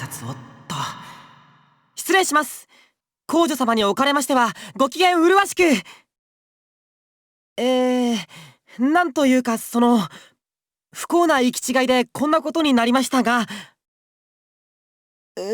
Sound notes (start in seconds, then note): 7.0 silence; 14.7 silence